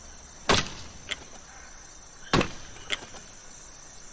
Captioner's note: knife thudding